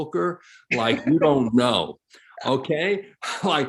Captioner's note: chuckles